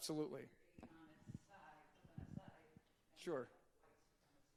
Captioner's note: audience member murmuring